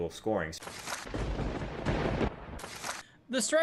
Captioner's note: lightening; thunder